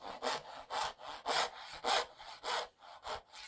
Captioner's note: saw scraping